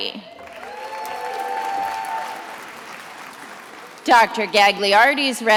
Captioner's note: attendees applauding